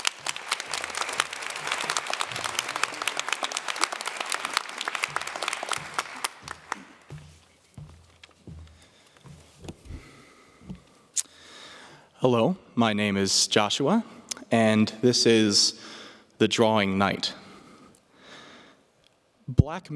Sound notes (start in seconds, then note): 6.5 applause